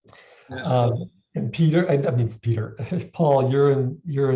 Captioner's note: chuckles